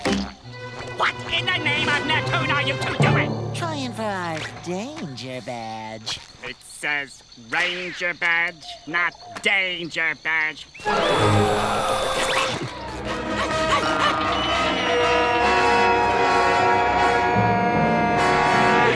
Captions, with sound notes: What in the name of Neptune are you two doing?! Trying for our danger badge. It says, "ranger badge", not danger badge. [gasping] [panting] [screaming]